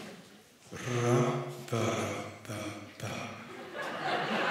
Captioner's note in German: Über Lautsprecher